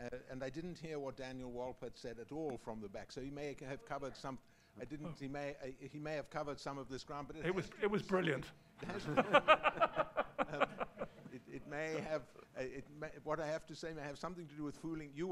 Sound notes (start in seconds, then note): 8.8 laughter